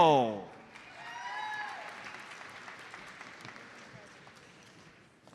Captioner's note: audience applauds